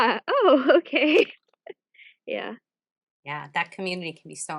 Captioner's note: laughs